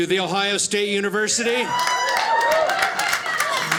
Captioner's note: audience cheers